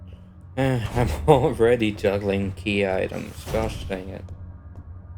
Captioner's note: sigh